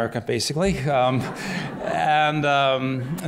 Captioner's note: laughter